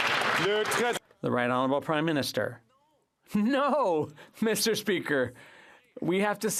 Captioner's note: some Applause